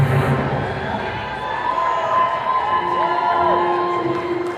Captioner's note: attendees cheering